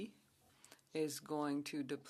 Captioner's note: speaking French